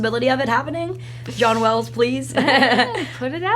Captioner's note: laughs